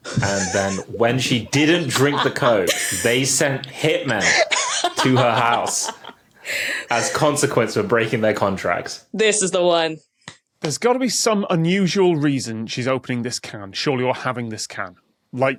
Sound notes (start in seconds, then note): 5.5 cackles